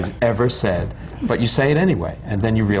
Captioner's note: laughter